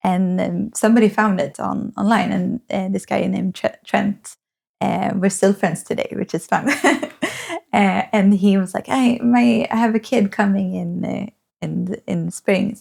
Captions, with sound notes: And then somebody found it online and this guy named Trent, we're still friends today, which is fun. (laughs) And he was like, I have a kid coming in in the Springs